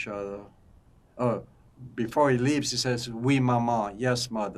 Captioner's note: french